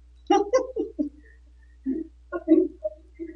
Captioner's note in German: Gelächter